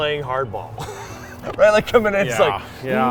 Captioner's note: laughs